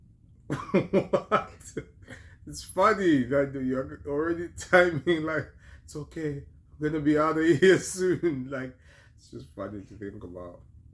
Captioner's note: laughter